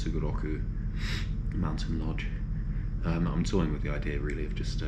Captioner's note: sniffles